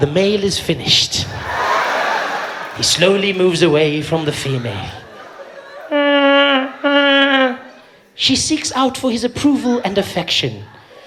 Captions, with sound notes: “The male is finished.” “He slowly moves away from the female.” *sound of a vuvuzela* “She seeks out for his approval and affection.”